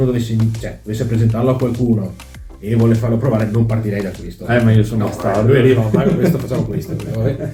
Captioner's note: laughs